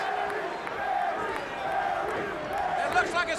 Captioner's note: crowd chatter